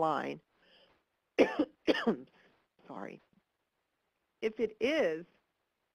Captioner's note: coughs